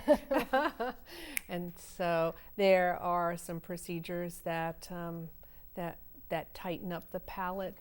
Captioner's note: laughter�